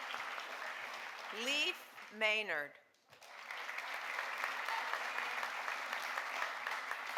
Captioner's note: audience applauding; audience applauding